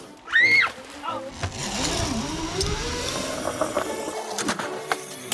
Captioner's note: children screaming happily